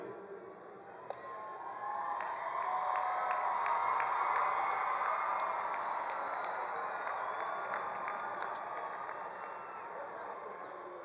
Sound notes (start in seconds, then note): 1.2 attendees cheering; 1.8 attendees applauding